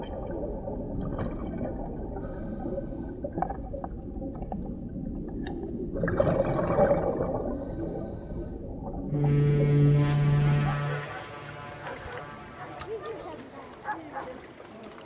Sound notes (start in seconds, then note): 9.0 steamer's fog-horn